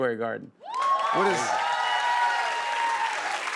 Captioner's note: cheers and applause